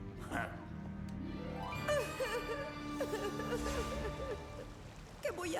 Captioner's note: crying